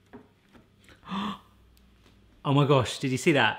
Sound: gasp

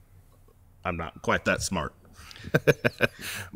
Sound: laughs

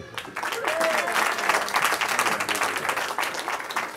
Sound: cheering

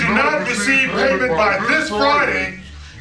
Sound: voiceover

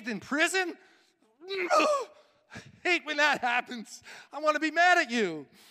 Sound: grunting

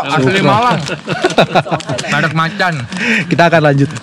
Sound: laugh

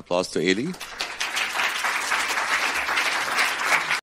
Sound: audience applause

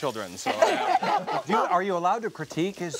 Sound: laughter

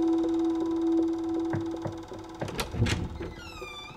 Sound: knocking

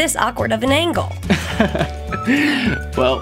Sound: laughing

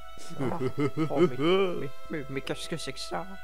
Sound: ghost laughing

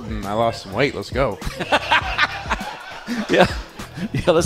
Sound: laughter

